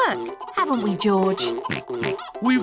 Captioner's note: oinks